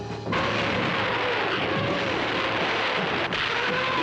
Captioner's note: guns roaring